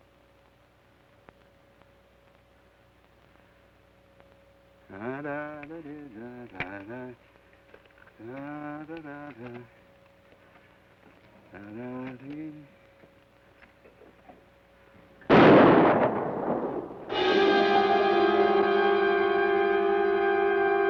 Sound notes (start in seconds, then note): 5.0 hums melodically; 15.2 gun fires; 17.0 ominous orchestral music